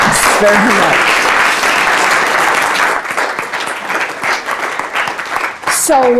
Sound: applause

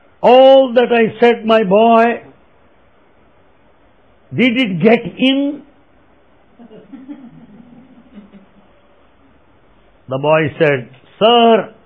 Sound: laughter

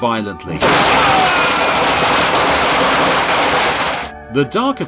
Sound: electricity crackling; man screaming

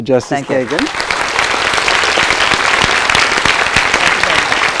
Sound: audience applause

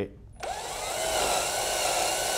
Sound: drilling sounds

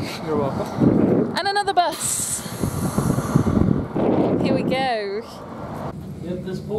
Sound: engine noises

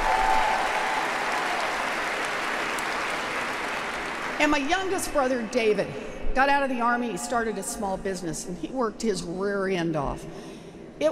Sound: applause

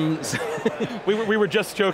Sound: laughs

